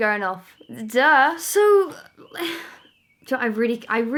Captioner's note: sigh